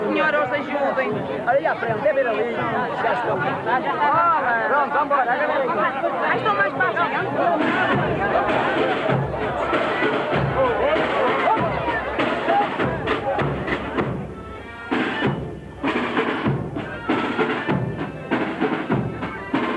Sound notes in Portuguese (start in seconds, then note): 1.9 vozes e conversas; 8.2 batuques; 8.2 vozes e conversas